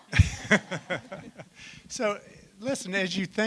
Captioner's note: laughter